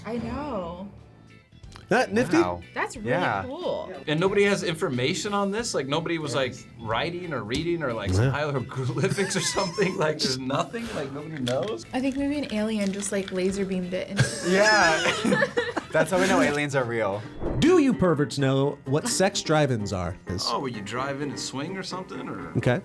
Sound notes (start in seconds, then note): 14.1 laughs